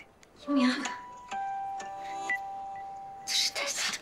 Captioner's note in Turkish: Telefon Sesi